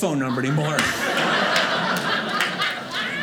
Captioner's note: audience laughing